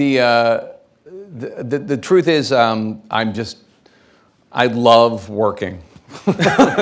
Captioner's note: laughing